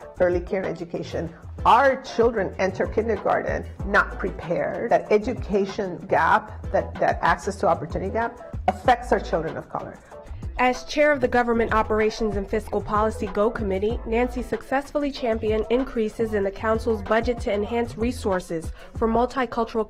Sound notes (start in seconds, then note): none